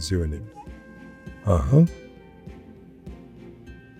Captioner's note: speaking in Ojibwe language